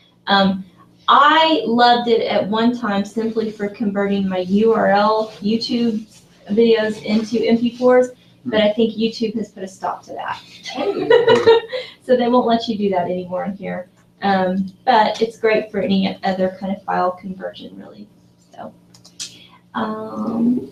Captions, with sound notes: I loved it at one time simply for converting my URL YouTube videos into mp4s. But I think YouTube has put a stop to that. [LAUGH] So they won't let you do that anymore in here. But it's great for any other clinic file conversion really so.